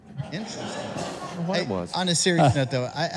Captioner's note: audience laughing